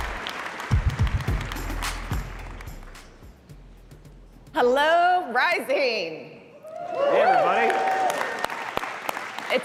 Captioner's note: applause